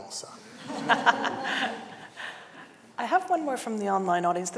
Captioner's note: audience laughing